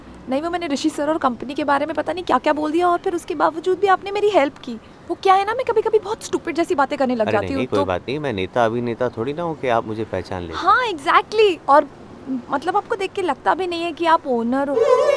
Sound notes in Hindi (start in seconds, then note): none